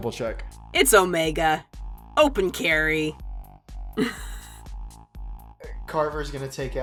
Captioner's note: chuckles